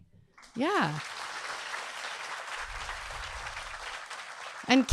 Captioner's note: audience clapping